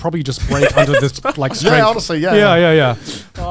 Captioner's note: giggles